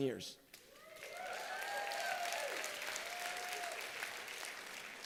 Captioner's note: applause